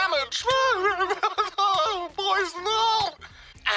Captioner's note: shrieks, sobs